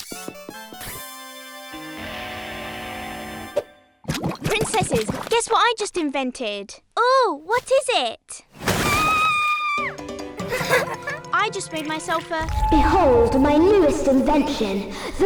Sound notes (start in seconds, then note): 0.0 sneaky music; 8.6 splashing; 8.9 Isabella screams; 10.3 everyone but Isabella laughs